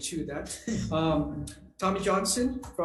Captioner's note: laughs